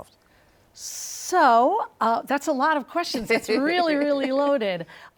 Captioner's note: laughs